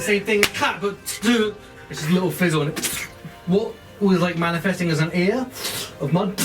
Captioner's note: splat noise